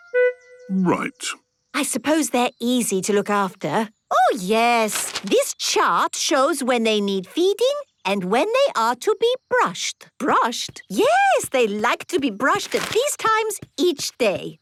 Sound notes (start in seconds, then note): none